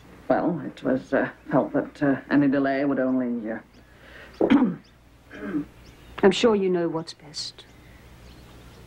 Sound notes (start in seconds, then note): 5.3 Tremball clears throat